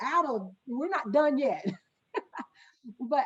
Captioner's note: laughing